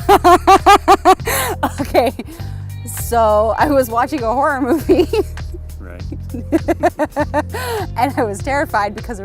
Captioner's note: laughs